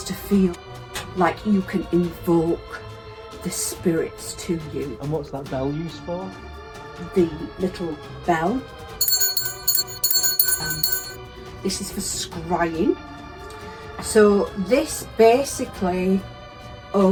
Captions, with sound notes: it has to feel like you can invoke the spirits to you - and what's that bell? The... little..bell... (bell tinkles) this is for crying so, this basically